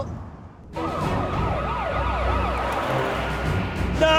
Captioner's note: sirens